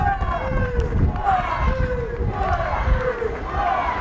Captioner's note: fans chanting